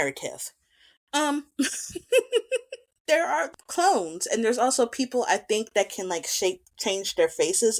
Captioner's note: giggles